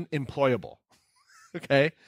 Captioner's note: laughing